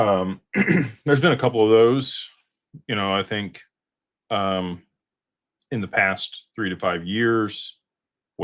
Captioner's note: clears throat